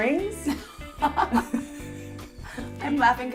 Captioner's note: laughter